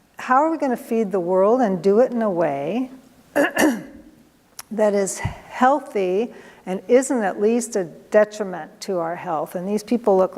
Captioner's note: clears throat